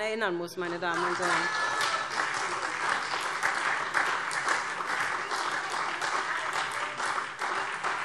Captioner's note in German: Beifall SPD - Lachen BÜNDNIS 90/DIE GRÜNEN